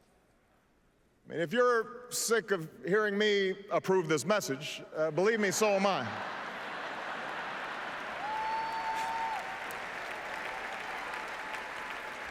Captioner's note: applause